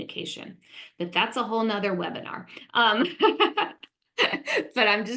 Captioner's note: laughs